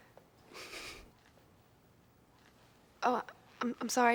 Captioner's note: laughs